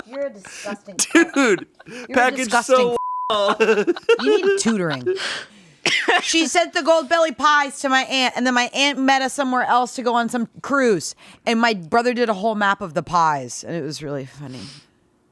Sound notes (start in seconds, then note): 2.7 beeping; 3.2 laughing